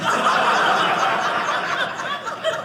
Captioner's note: audience laughing